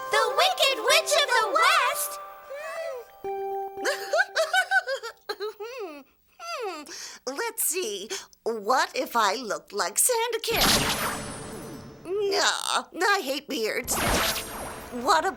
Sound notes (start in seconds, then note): 3.8 chuckling; 10.5 zaps; 13.8 zaps